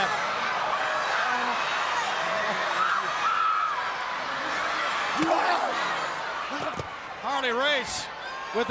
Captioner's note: crowd cheering